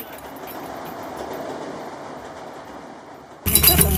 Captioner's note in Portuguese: barulho do trem; batucada